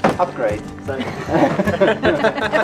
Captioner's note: laughter